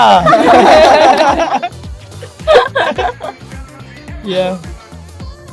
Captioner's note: laughs